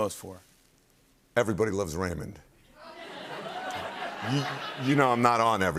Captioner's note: laughter